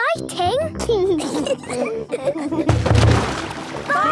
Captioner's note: giggling